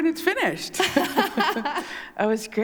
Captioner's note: laughter